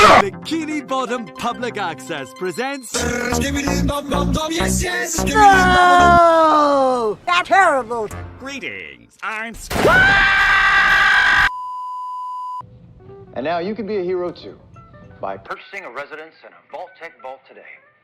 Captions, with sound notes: "Bikini Bottom Public Access Presents..." BOOOOOOOOOOOOOOOOOOOO!!! Skibidi Toilet Terrible! Greetings...Am... [Gunshot] [Squidward Screams] Cooper Howard:And Now You Can Be A Hero Too Cooper Howard:By Purchasing A Resident In A Vault Tec Vault Today